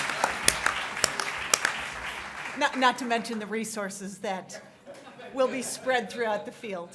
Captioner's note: applause